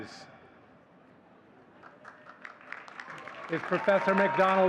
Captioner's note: audience cheering and clapping